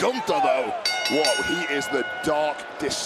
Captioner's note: bell rings